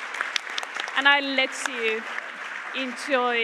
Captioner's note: Aplodit